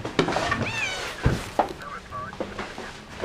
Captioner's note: cat meows; radio muttering